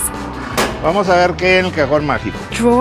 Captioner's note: in Spanish